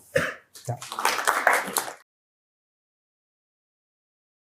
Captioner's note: applause